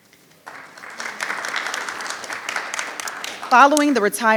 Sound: audience applauding

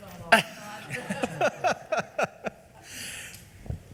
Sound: laughs

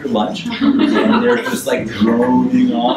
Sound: audience laughs

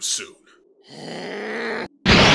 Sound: GOHAN growls

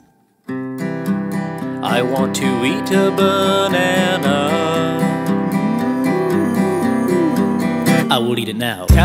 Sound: moooo

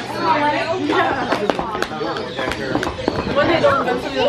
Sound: slaps

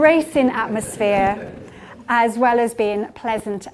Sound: audience titters

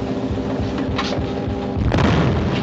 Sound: explosion

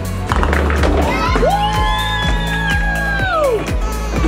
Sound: cheering

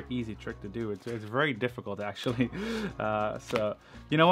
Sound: chuckles

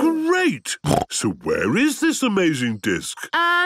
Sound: snorting

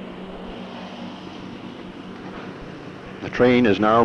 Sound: sound of the train idling

